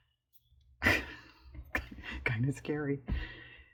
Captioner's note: laughs